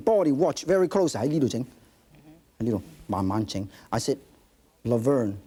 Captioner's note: speaking in foreign language